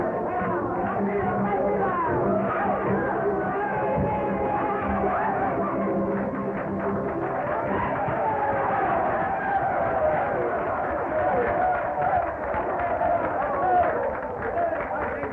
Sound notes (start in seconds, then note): 8.3 cheers and applause